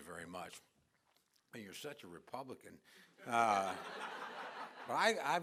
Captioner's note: laughter